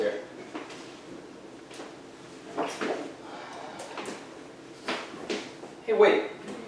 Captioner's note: footsteps, journal pages being flipped